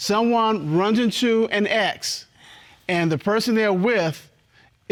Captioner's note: none